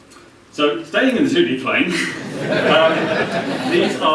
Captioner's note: laughter